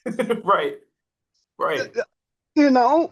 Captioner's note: laughs